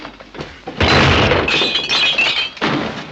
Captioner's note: crash